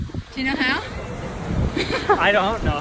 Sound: laughs

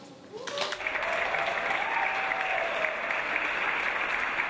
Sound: audience applause

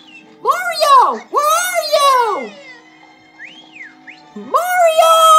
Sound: whistles; whistles

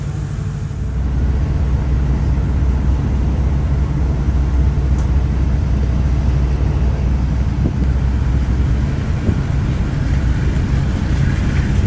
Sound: sound of train

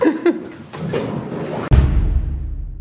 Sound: laughs

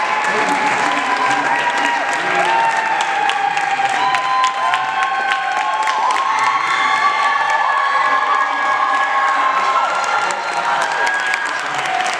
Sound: applause

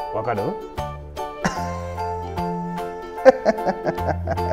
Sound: laughs

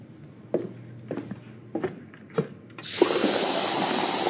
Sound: footsteps

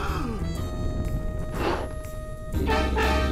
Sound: gasps; blows softly; growls

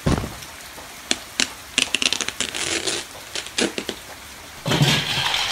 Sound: LEGO box being opened

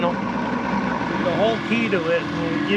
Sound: boat engine running

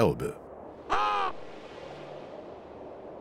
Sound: caws

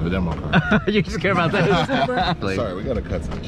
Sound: laughs

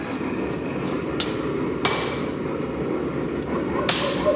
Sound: metal clanging

